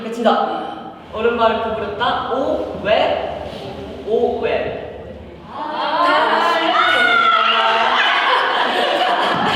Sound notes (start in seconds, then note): 6.6 the screams already coming out